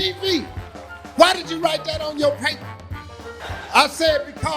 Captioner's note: laughing